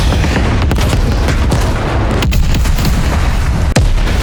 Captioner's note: gunfire